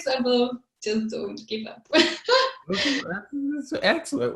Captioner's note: laughs